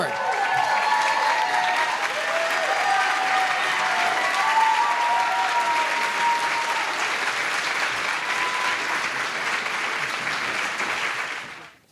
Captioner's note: applause